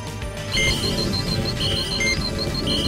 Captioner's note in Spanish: Pitidos